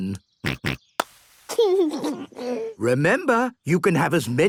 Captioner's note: snort; snort, laughing